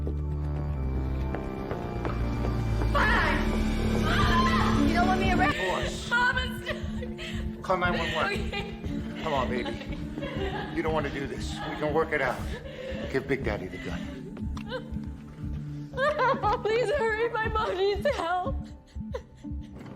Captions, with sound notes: Fine! Mama! You don't want me around anymore?! No, Mama, ! Call 911. [sobbing] Okay. Come on, baby. You don'n't wanna do this. We can work it out. Give Big Daddy the gun. [sobbing] [sobbing] Please hurry, my m mom needs help.